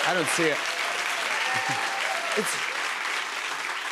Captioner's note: cheers and applause